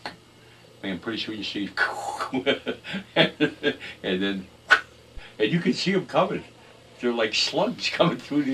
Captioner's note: laughs